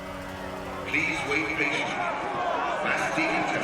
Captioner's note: man over speakers